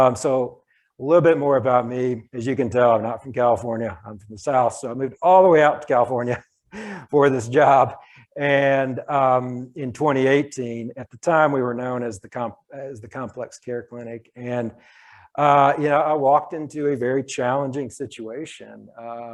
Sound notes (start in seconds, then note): 6.8 chuckles